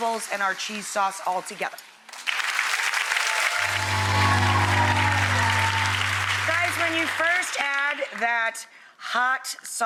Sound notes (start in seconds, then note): 2.1 audience applauds